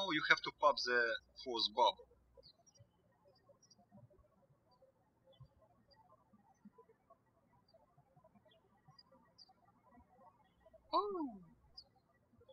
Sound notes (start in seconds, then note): 3.1 birds chirping